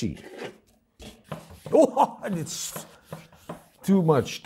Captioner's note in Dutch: laughing out loud